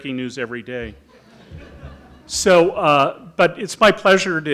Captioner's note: audience laughing